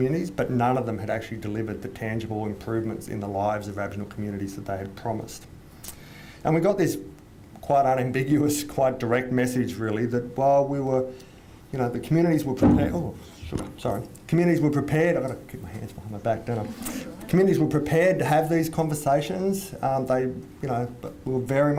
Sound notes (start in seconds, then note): 12.6 hits microphone with hands; 15.3 hands hit the microphone again